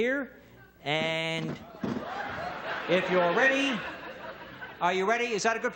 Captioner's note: audience laughs